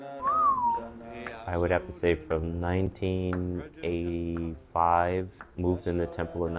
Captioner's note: whistles